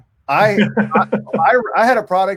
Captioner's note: laughing